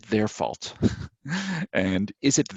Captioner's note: laughing